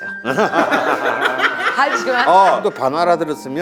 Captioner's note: hahhaHaHAHaHHA